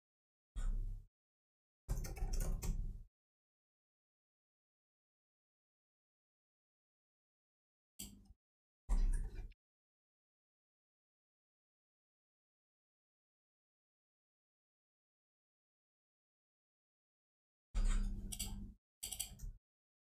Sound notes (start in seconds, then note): 1.8 blank Audio